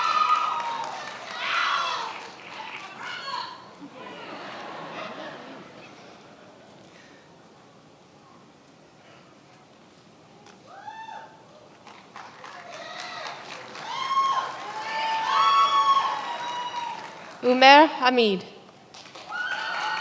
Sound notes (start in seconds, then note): 3.1 many applauding; 3.7 many laughing